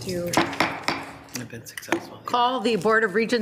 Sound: gavel banging

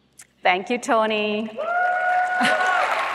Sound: applause

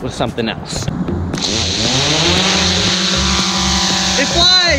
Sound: engine whirring

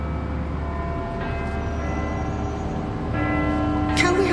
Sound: bell tolls

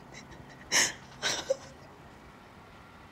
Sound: sobs

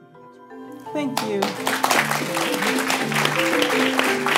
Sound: applause

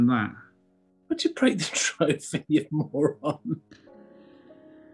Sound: chuckling

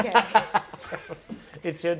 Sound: players laughing

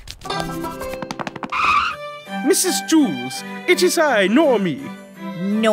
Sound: british accent

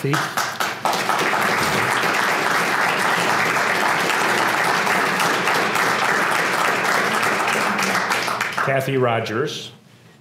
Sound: applause

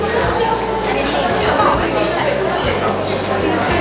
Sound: crowd mumbling

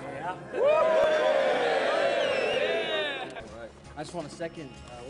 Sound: cheering

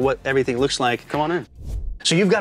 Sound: air whooshing

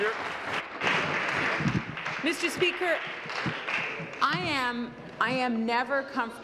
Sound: applause

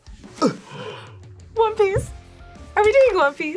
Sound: gasps

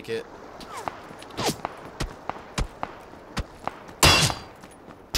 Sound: bullets whizzing

